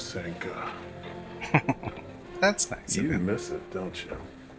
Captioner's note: chuckling